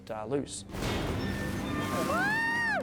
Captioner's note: water splashing; cheers